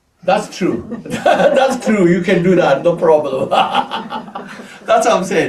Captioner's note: laughs